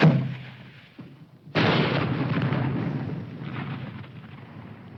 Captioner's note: bomb exploding